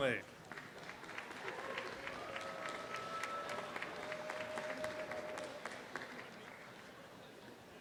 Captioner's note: applause and cheering